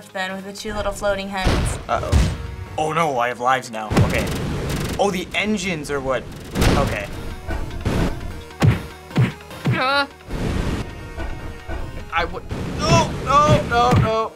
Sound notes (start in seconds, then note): 7.0 beams roaring, repeated wallops; 7.0 whimpers